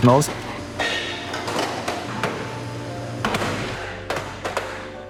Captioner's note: molds clanking